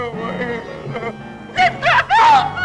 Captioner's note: crying